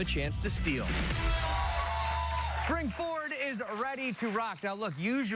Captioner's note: cheers and applause